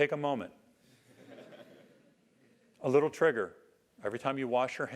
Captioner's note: laugh